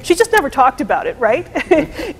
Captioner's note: chuckles